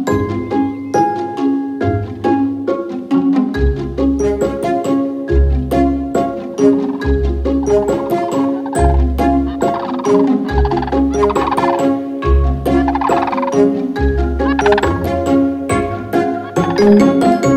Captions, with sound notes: Mates stay together year-round, even during migration. [Cranes calling]